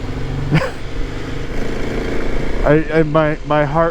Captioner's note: laughs